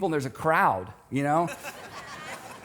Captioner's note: audience laughs